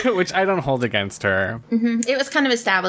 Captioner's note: laughs